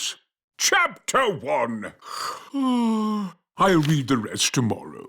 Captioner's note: yawns